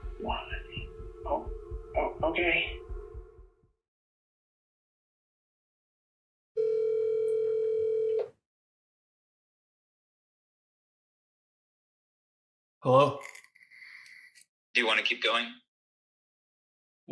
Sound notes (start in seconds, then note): 6.6 phone ringing